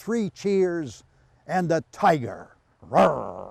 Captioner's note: growls